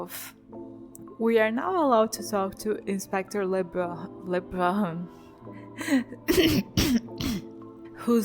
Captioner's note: cough